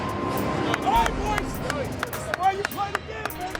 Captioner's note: player clapping